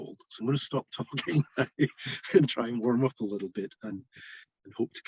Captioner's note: laughs